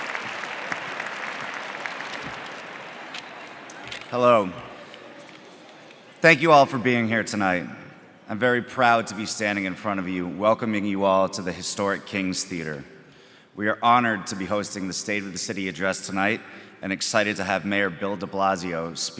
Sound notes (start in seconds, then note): 4.3 applause